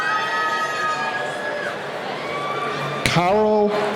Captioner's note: cheering